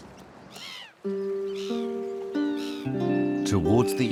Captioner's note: birds cry